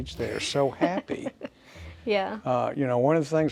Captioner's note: laughs